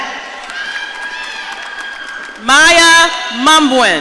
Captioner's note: audience cheering